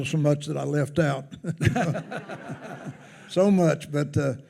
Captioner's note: attendees laughing